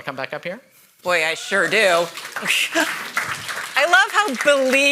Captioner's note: audience cheers and applauds